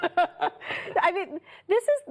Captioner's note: laughter